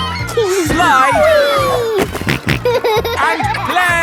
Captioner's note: giggles; snorting